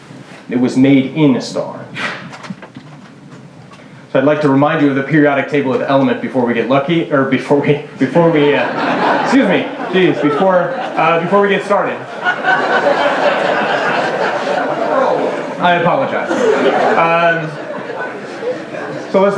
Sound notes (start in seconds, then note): 9.6 laughter; 14.1 laughter